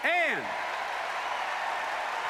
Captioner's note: applause